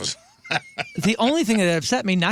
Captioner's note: laughing